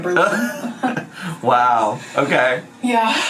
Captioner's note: chuckles